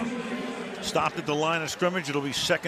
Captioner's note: pa announcement